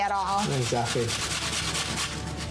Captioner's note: grating